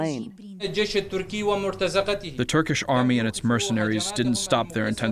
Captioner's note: through translator